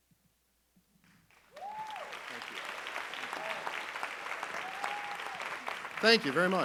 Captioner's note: audience cheering and applauding